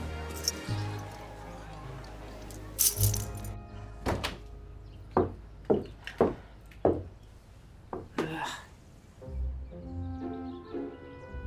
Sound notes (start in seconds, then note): 0.3 keys jingle; 3.7 door opens, footsteps